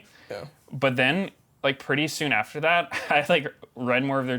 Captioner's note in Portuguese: risos